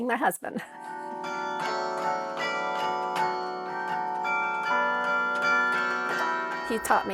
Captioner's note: bells ringing